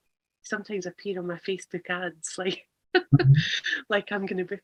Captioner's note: laughs